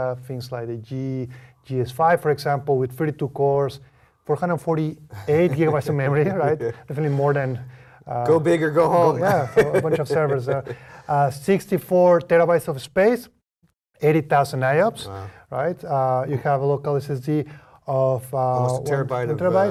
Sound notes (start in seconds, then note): 5.1 laugh; 9.1 laugh